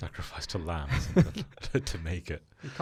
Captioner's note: laughing